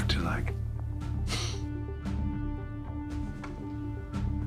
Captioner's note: Chuck huffing; tense music